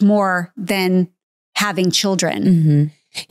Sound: none

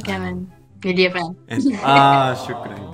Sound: Arabic

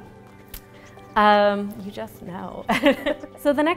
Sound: laughs

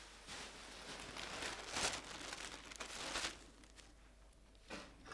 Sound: rustling

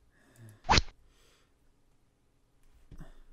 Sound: rod sound

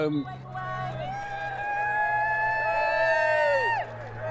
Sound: cheering and applause

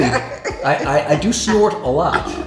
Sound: laughs

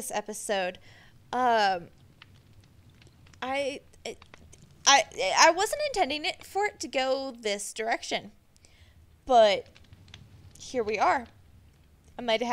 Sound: confused noises

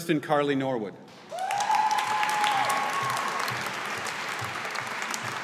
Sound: audience applauding

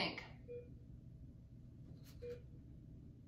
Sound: beeping

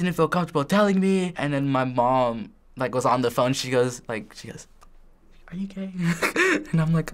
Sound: whispers; chuckles

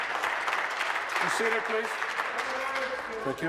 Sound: applause

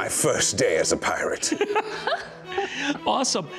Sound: laughing

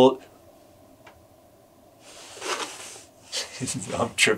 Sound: light tap

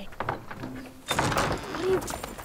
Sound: opening door

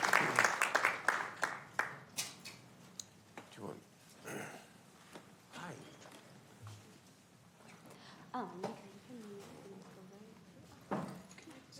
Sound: applauding

